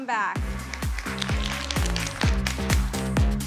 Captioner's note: applause